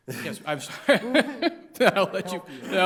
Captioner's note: laughs